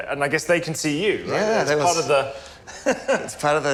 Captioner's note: laughs